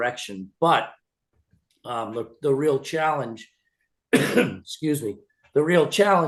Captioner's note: coughs